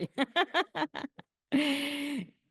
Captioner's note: laughs